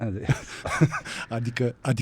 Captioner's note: laughter